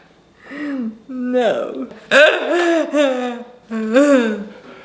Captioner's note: laughing